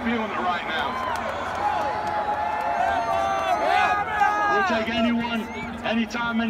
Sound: applause

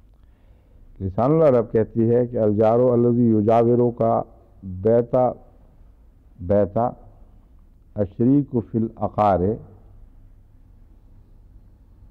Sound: Arabic

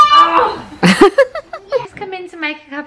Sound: laughter

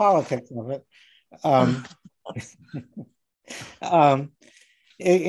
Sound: laughing

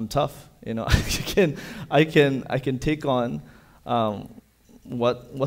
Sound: chuckles

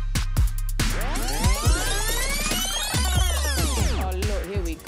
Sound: intense dance music; tape reel rewinding

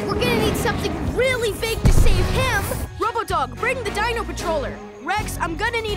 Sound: none

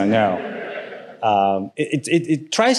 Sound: audience laughing

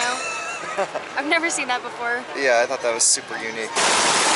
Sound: laughter

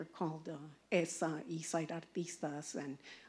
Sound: speaking in Spanish

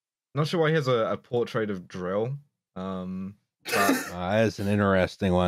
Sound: laughter

